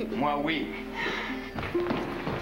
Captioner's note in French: Soupir